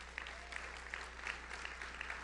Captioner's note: audience applauds; audience member cheers